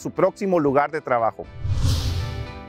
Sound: upbeat music; screen swooshes

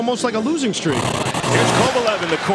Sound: TV static

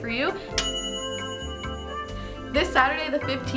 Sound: bell dinging

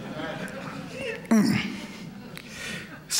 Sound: laughter

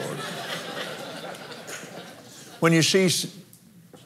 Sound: laughs

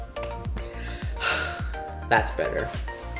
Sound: sighs; upbeat synth music

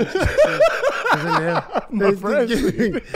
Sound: laughs

